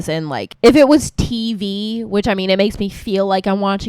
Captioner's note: none